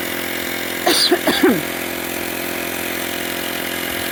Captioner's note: host coughs